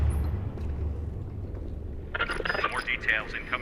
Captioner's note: radio tuning